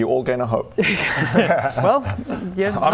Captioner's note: wishful laugh